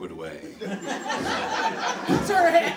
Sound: laughing

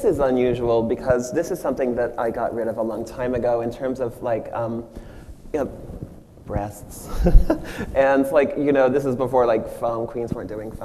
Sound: machine chuckles

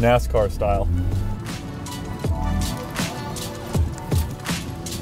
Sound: engine revving

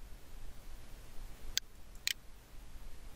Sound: PowerPoint click

